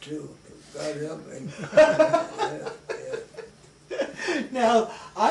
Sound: laughter

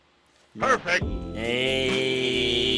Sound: voiceover

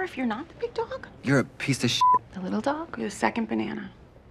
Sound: beep

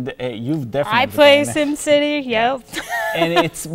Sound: laughs

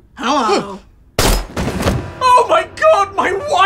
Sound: gunshot

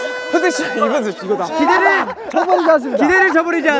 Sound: hahahaha

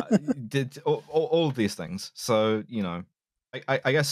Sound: laughs delightfully

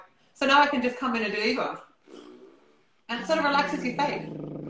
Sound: buzzing sounds; buzzing sounds

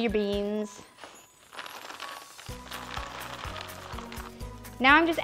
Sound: pouring beans

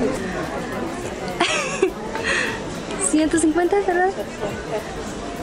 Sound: laughter

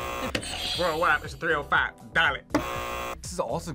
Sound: buzzer; buzzer; buzzer rings

